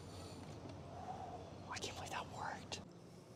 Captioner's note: whispering